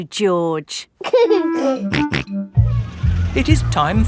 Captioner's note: giggling and snorting